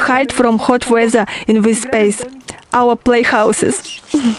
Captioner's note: laugh